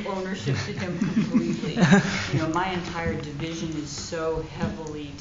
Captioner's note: laughter